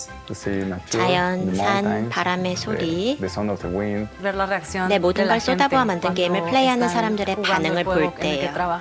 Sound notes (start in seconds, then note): 4.6 non-english speech